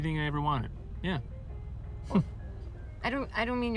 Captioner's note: chuckles